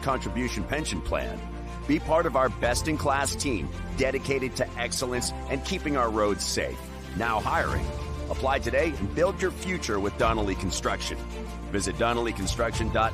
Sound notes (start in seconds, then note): none